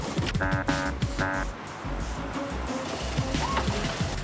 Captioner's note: horn honks